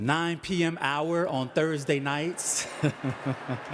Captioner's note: laughing